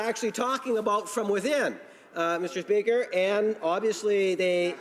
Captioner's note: some Applause